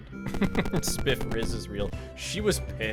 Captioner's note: laughs